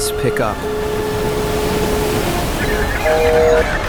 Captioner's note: sea waves crashing